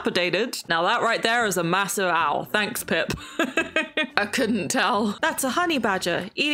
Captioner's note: laughs